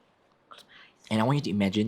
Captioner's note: whispers